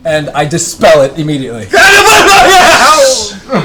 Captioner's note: yells incoherently